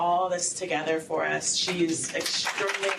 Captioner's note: applause